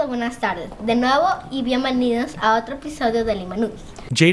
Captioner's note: speaking in foreign language